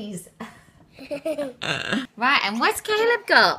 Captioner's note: both laugh